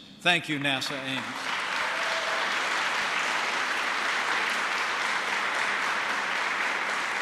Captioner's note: applause